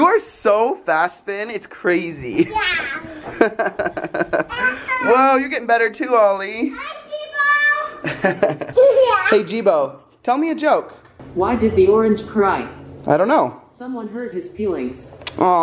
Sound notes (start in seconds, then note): 3.0 laughing; 8.0 giggle